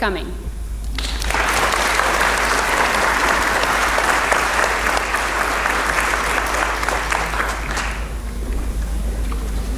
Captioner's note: applause